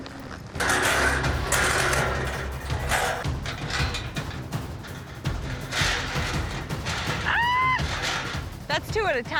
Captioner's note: metal clanging